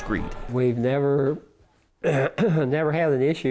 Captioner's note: clears throat emphatically